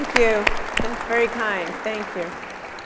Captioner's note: audience applauding